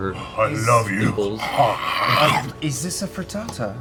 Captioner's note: eating noises